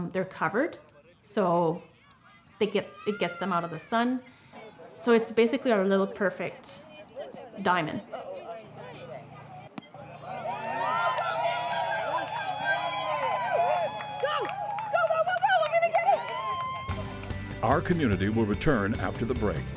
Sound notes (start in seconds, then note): 9.5 baseball hit; 9.9 cheers